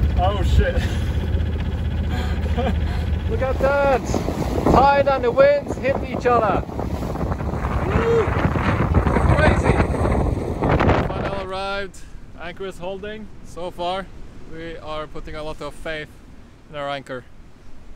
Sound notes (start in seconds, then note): 10.0 wind noise